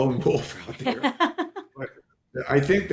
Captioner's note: laughing